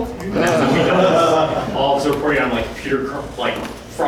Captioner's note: audience laughing